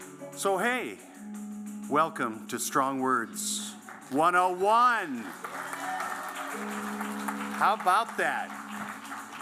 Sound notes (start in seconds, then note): 3.8 applause